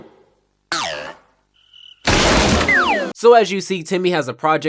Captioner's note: smashing